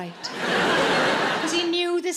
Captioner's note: audience laughing